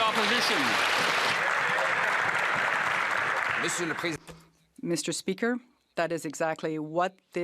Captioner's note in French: voix de l'interprète